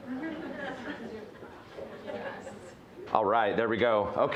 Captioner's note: audience chuckling